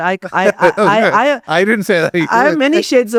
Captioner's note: laughs